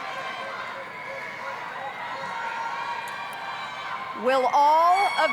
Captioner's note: scattered cheering